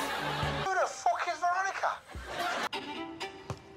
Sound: over walkie talkie

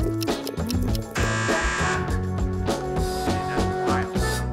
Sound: mechanical buzz

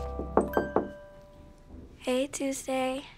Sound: knocking on door

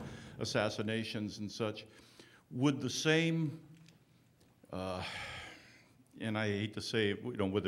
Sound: sighing

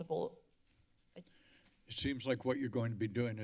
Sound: silence

